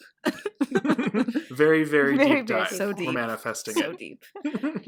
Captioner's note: laughter